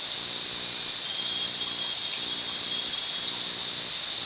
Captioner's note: bird singing